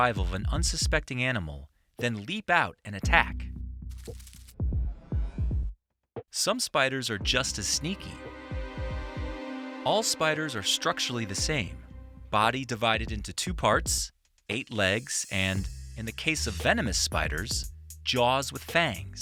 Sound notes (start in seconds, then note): 3.9 scorpion scurrying; 7.2 ominous music